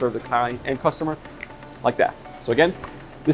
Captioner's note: snapping fingers